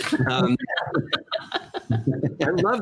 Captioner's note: laughter